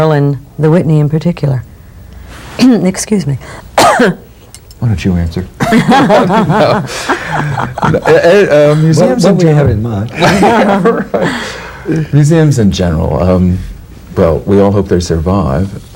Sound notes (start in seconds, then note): 3.7 coughs; 5.6 the group laughs; 10.1 laugh